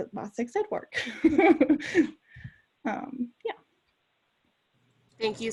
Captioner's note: laughs